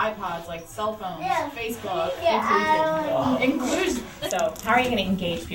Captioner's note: shouts